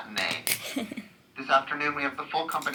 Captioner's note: chuckles